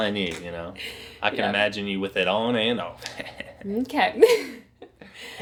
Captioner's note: laughs